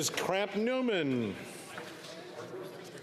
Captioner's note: speaking FRENCH